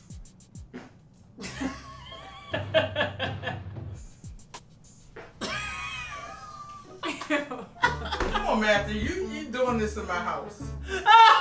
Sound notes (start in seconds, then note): 0.7 farting; 2.1 laughing; 5.2 farting; 5.4 laughing; 10.8 laughing